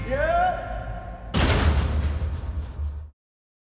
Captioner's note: echoing slam